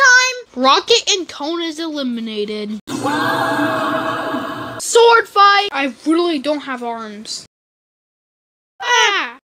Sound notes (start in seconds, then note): 2.9 Rocket and Cone scream